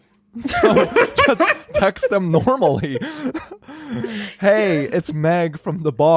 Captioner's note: laughing